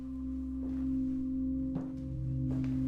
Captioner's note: ominous music; footsteps